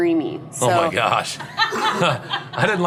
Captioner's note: laughing